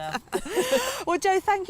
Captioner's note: laughter